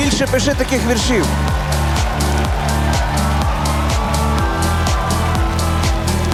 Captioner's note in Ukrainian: оплески